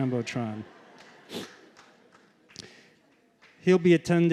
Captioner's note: laughter